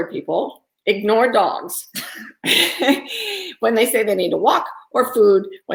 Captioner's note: giggling